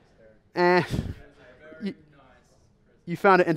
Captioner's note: voiceover